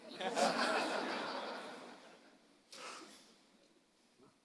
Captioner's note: audience laughing